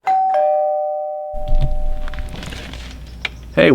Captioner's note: doorbell